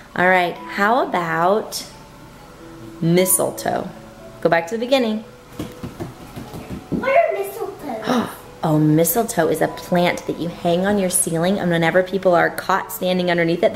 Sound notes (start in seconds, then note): 5.6 stomping